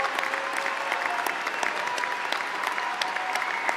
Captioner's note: applause